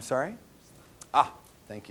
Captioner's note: audience response